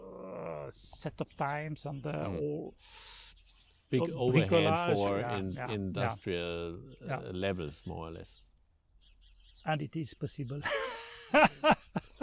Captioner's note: laughing